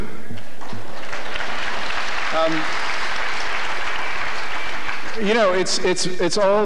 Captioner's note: applause